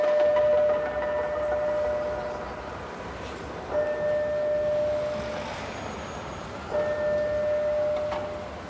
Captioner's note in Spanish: Se escucha la alarma